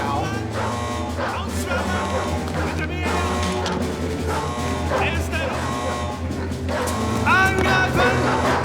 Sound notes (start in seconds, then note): 1.1 speaking german